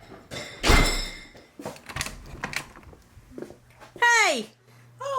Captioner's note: bells jingling